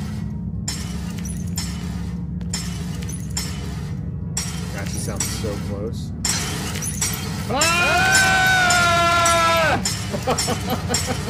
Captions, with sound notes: That just sounds so close. (yelling) (laughter)